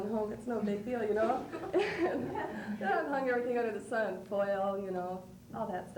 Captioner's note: laughs